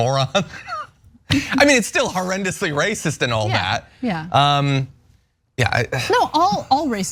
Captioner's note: laugh